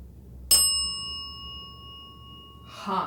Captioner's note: bell dings